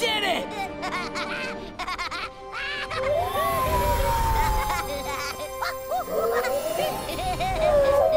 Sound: laughing

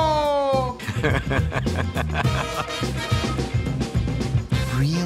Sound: man laughing

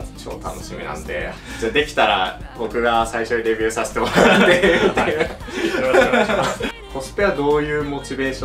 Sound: laughs

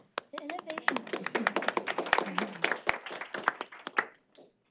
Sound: applause

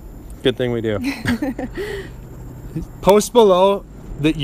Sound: both laugh

